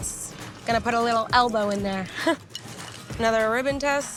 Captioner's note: chuckling